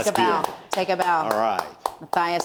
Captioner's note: clapping